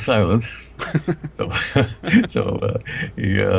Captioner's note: laughing